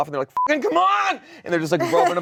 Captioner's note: beep